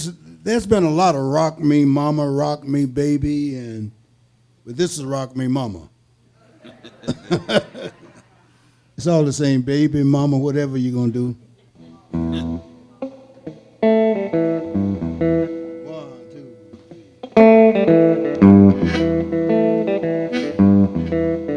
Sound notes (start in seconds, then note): 6.4 laughing; 6.4 audience laughing; 12.2 guitar strumming